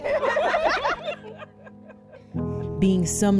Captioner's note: laughing